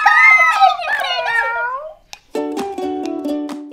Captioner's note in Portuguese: gritos e miados